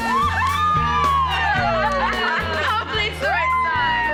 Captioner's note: cheering